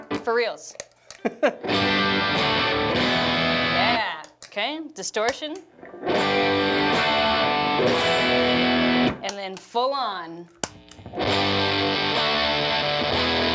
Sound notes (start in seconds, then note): 0.0 strums guitar; 1.2 laughs and strums guitar; 5.8 strums guitar; 10.9 strums guitar